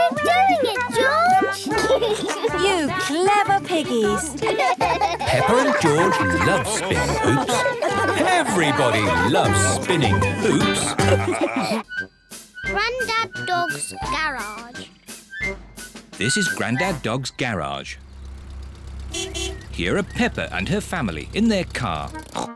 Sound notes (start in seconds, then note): 1.6 laughs; 4.9 both laugh; 17.3 horn beeps